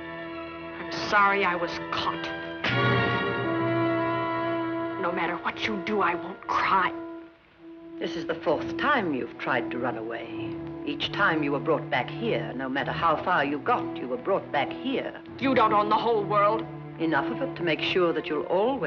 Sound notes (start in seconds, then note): 2.0 slap